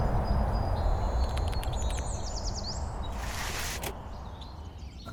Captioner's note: typing; gear turn